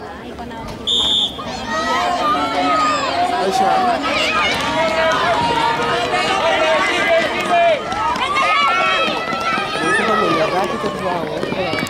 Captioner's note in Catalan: La gent anima; Xiulet; La gent anima